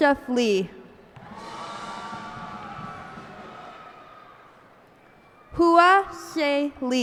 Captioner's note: cheers and applause